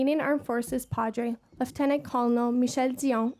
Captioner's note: speaking French